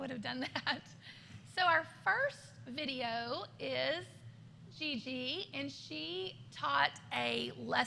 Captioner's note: laughter